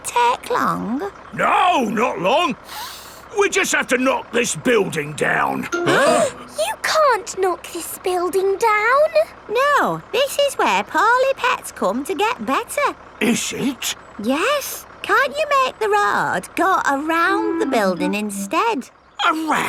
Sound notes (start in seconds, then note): 2.6 sniffs; 5.8 all gasping